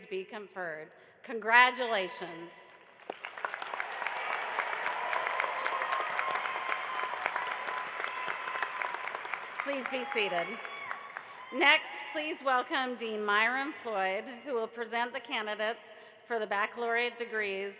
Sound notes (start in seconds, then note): 5.1 applause